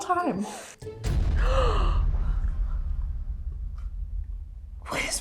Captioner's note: gasps